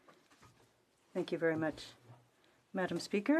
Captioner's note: speaking French